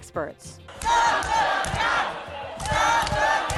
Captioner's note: crowd